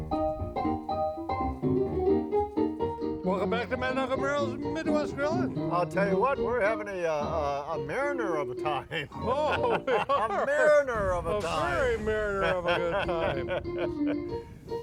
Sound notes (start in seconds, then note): 0.1 funky keyboard music; 8.8 men laugh; 14.6 man laughs